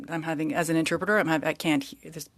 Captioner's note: speaking French